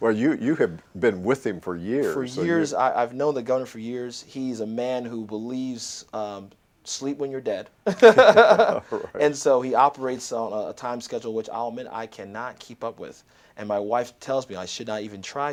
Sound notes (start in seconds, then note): 7.8 laughter